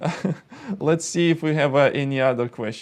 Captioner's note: laughs